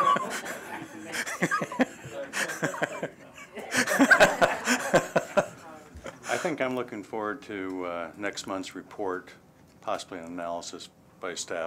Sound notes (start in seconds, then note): 0.0 laughter